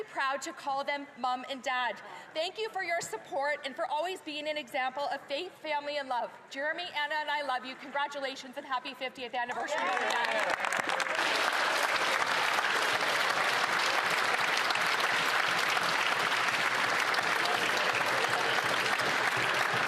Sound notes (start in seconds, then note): 14.8 applause